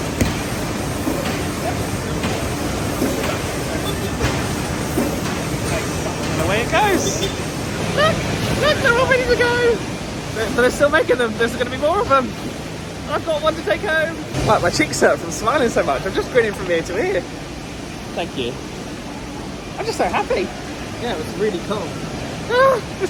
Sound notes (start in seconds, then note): 0.1 books thudding; 2.8 machinery whirring drowns out workers speaking; 22.5 laughing